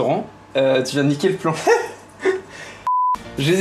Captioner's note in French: rires